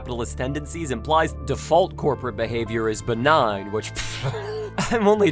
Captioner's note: laughs